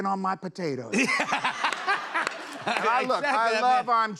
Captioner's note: laughter